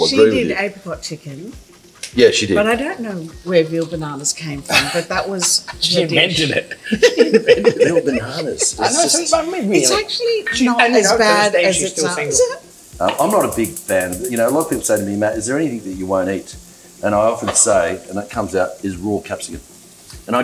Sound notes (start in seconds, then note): 4.6 laughs; 7.2 group laughs